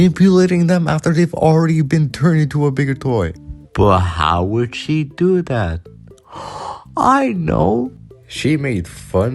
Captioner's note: gasp